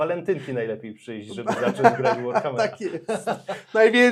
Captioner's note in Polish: śmiech